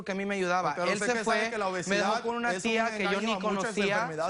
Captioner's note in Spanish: Hablan al unísono